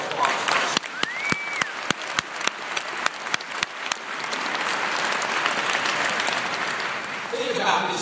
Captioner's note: applause